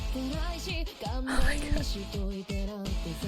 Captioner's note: whispers